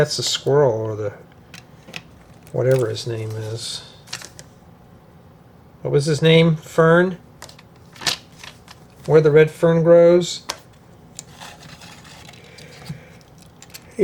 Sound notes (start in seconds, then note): none